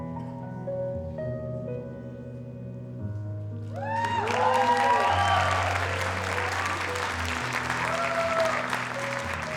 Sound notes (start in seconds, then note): 3.7 audience applauding; 3.8 audience cheering